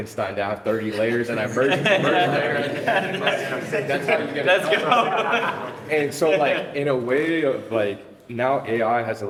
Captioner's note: laughter